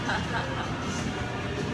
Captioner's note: laughs